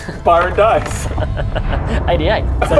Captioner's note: resigned chuckle